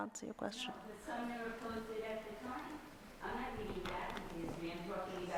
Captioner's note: speakers off-microphone